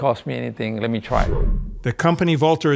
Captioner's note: transition sound effect